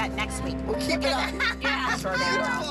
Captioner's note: laughter